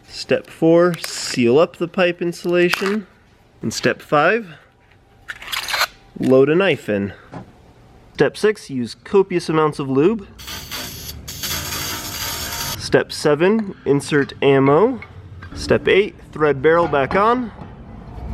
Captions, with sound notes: Step four, seal up the pipe insulation, and step five, (squeaking) loud a knife in. Step six, use copious amounts of lube. (buzzing) Step seven, insert ammo. Step eight, thread barrel back on.